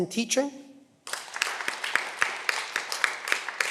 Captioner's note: cheering